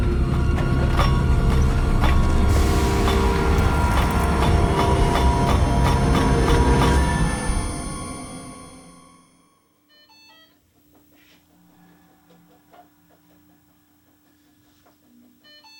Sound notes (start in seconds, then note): 0.0 construction banging; 3.5 dramatic pounding music; 9.9 hospital machine beeping